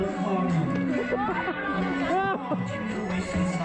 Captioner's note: laughter